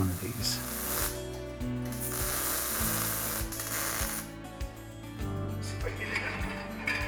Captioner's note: sparks sizzle; dragged sculpture scrapes the floor